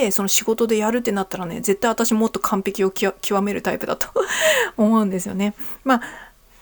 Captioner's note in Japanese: 笑い